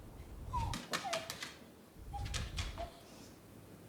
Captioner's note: dog whining